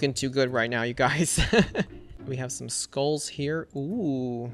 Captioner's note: laughs